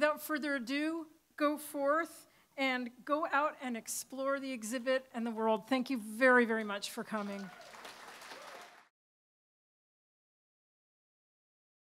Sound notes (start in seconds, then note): 7.1 applause